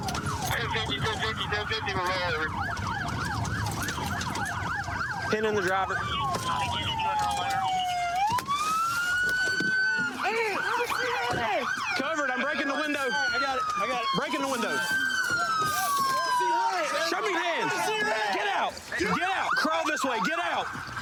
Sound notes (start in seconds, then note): 9.6 shouting